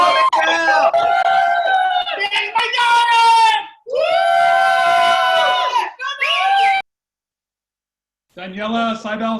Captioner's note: cheering